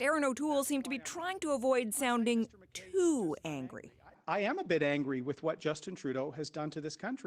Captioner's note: speaking french